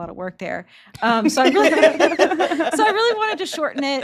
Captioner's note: group laughs